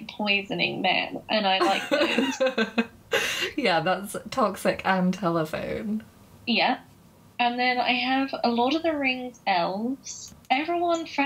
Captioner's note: laughing